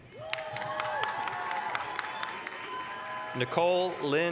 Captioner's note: applause, cheering